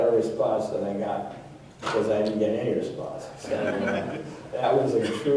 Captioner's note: laughter